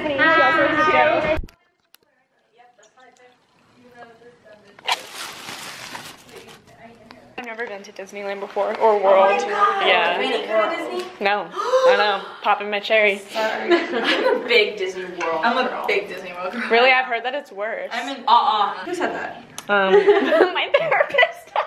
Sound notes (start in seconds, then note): 11.5 WOMAN gasps